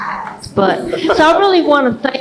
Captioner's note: laughs